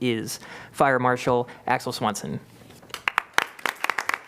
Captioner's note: applause